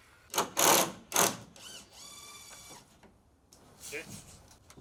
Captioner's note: drill buzzing